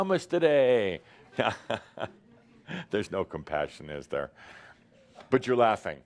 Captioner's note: chuckles